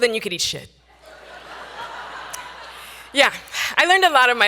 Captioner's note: audience laughing